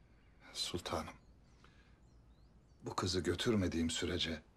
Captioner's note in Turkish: none